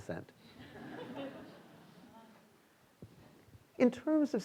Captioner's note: students laughing